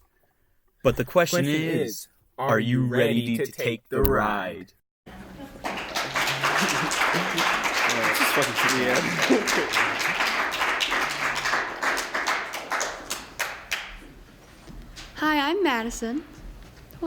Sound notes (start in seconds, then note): 5.7 applause; 9.6 laughs; 9.9 applause